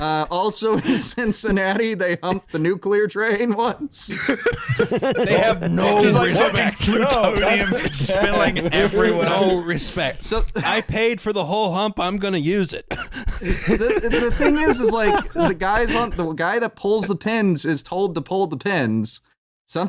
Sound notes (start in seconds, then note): 3.8 laughs; 3.9 laughter; 5.5 laughs; 7.0 laughs; 8.7 laughing; 12.8 laughter